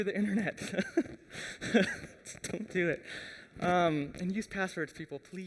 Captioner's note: laughs